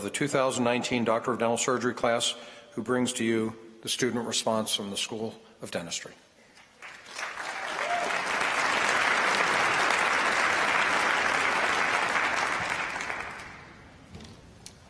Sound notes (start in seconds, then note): 9.8 applause